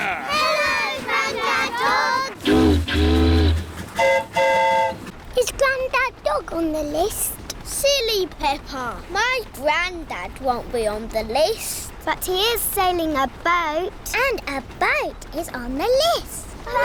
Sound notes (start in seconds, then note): 2.3 train horn toots; 2.4 boat horn honks